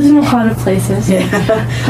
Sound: laughs

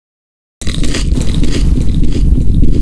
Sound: Crunch

